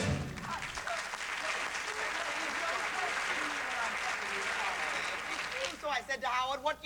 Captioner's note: music ends; applause